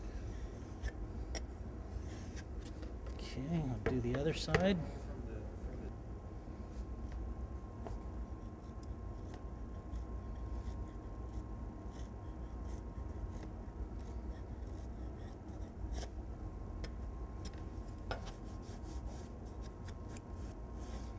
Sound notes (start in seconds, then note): 0.7 plane iron sliding across edge banding; 7.5 plane iron cutting incrementally